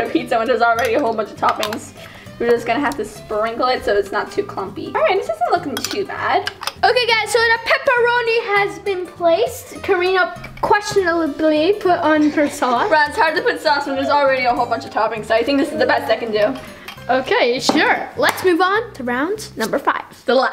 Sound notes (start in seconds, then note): 17.9 claps